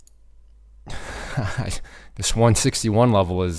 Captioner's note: chuckles